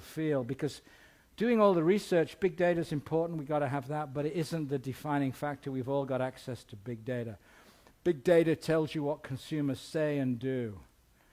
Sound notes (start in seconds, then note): none